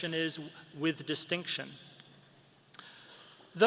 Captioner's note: none